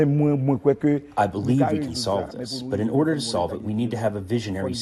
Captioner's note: through translator